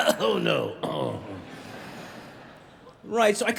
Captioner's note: audience chuckling